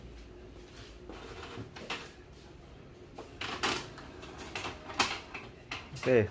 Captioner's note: printer machine sound